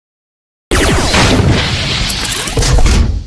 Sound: ship shooting

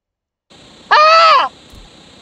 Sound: loud static; Oblivion female elf scream

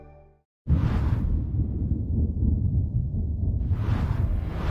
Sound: loud whooshing

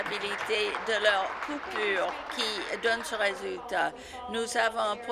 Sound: applause

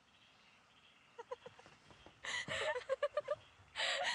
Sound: laughter

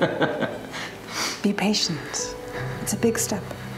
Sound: Alister laughing

